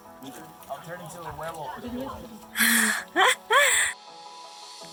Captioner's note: laughing